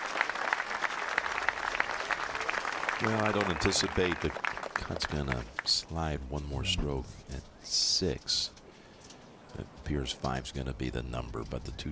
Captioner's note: applause